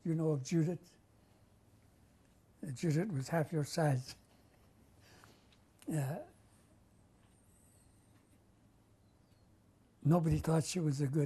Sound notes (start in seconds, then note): 6.4 pauses for 6 seconds